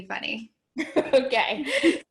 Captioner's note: laughing